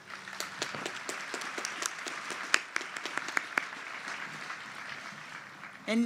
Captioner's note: applause